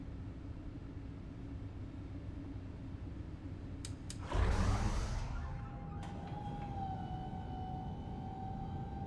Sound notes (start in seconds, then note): 3.8 lights click on; 6.0 hydraulic whirring